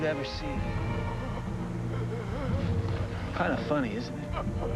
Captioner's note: gasping